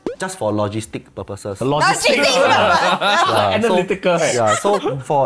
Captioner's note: laughs